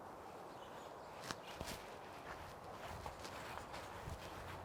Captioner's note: leaves crunching